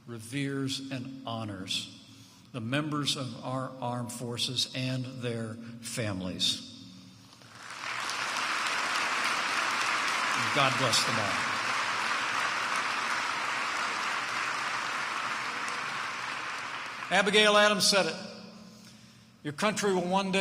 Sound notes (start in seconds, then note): 7.4 applause